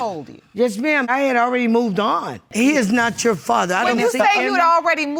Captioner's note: none